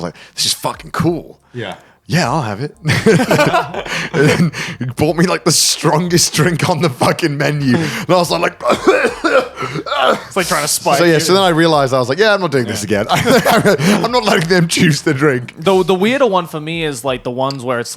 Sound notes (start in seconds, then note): 2.8 all laughing; 8.5 coughing